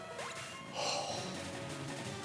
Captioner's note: sighs